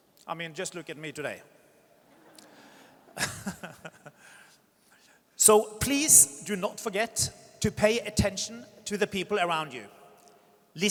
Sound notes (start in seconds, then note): 2.9 audience chuckles; 3.0 laughs